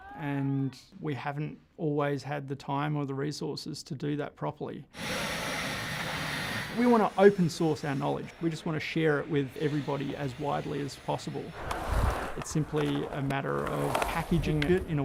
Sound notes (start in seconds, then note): 5.0 saw blade running; 11.4 skateboard rolling